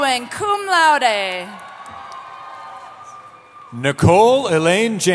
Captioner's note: cheering